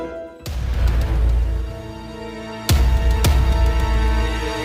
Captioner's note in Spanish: Sirenas sonando